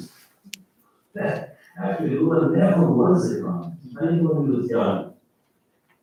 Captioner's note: faintly speaking